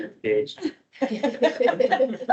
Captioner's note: laughter